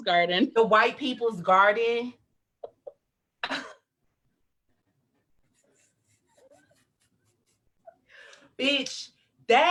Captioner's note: laughs